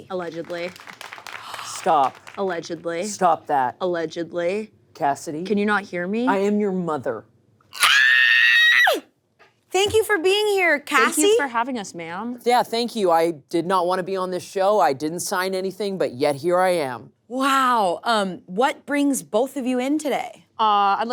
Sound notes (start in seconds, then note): 0.0 people clapping; 7.7 screaming